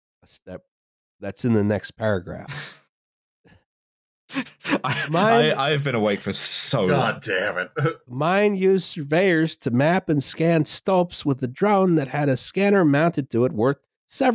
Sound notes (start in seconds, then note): 4.3 laughing